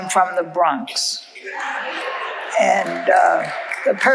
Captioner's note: audience laughing